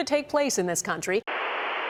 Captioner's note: static